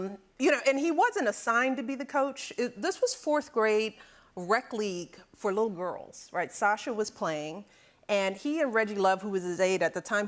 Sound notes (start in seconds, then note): none